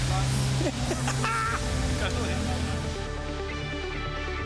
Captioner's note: laughing; energetic trance music